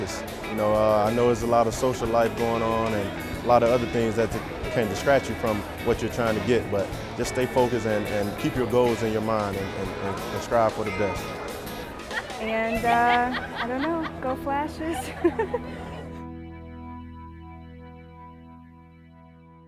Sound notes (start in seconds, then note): 14.8 giggles